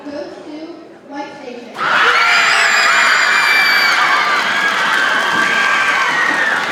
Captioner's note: audience cheers and applauds